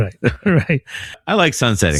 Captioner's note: uh